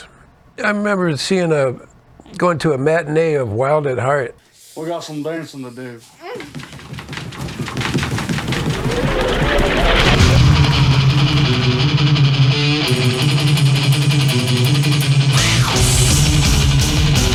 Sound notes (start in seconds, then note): 9.1 dance music; 9.3 machinery whirring; 15.2 machinery whirring